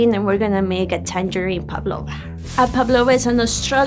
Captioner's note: none